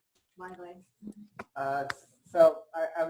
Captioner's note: pause